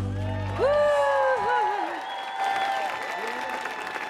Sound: audience applauding

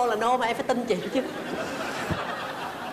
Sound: laughing

